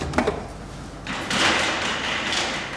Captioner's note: clattering